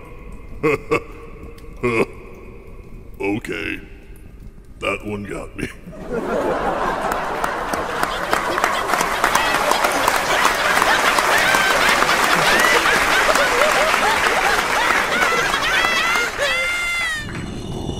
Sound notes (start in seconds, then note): 5.8 audience applauds and laughs for an uncomfortably long time